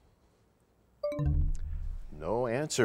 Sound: bell chimes, time expires

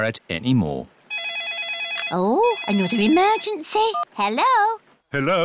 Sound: phone rings

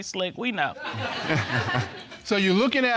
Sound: all laughing

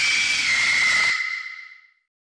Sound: screaming

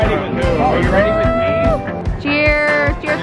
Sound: cheering

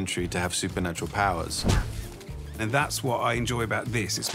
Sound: none

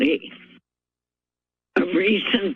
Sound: pause

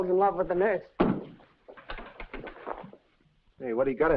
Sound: purse thuds

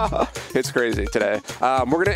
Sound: laughing

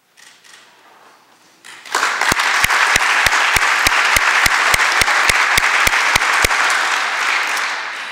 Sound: applause

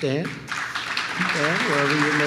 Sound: applause

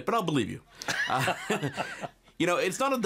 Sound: both laughing

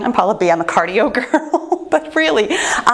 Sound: laughs

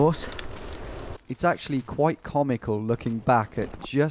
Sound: voiceover

